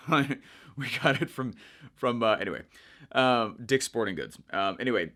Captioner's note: chuckles